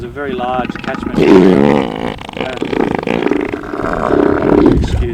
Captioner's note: elephant seal grunting